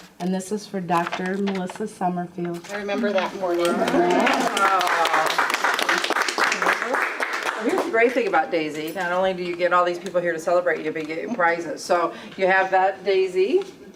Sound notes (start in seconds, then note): 3.9 applause